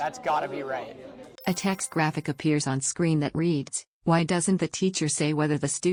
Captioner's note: chime